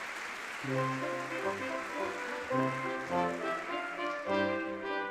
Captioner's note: audience clapping